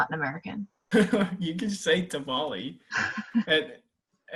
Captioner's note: laughs